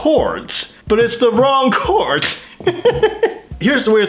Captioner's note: laughs